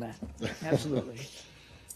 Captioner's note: laughter